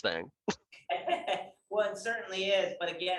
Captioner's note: laughs